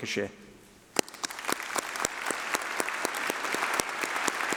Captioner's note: applause